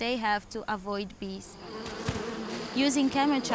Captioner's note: bees buzzing